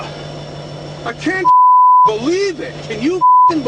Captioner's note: voiceover